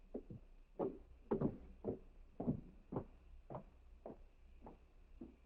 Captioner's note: footsteps away